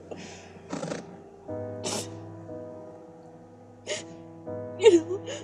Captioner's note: Tara sniffing